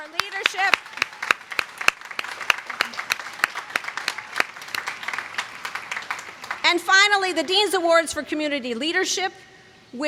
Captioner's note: applause